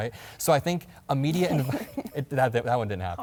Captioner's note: Margaret chuckles